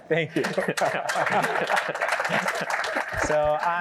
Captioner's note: applause